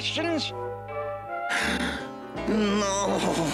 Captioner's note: gasps